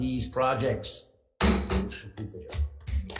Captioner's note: chair bangs gavel